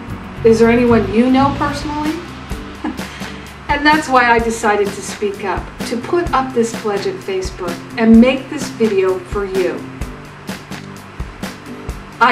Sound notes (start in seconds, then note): 2.8 chuckles